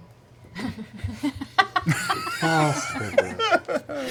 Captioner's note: laughter